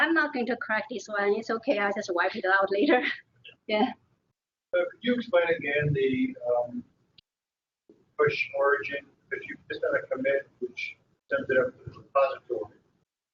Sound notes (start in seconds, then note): 3.6 laughing